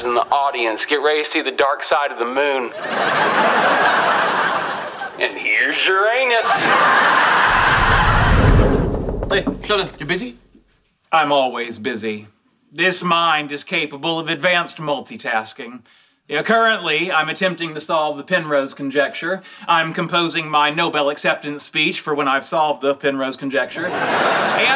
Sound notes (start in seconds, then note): 2.6 audience laughing; 7.4 air whooshing